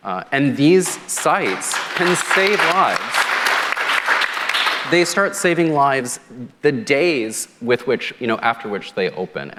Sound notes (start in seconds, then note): 3.0 applause